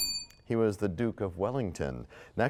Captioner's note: bell rings, time expires